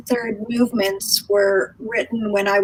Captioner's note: none